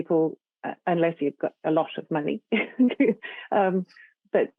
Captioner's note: chuckles